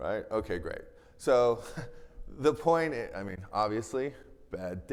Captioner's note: chuckles